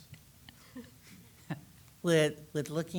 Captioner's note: attendees laughing